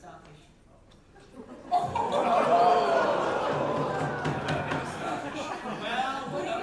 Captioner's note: audience oooh